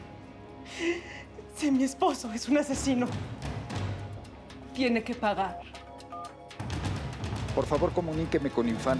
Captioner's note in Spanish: Sollozos